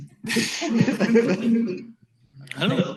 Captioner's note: laughter